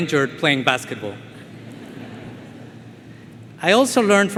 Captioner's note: attendees laughing